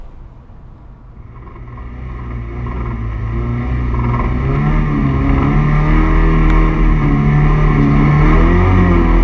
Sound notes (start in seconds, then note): 2.4 car engine roaring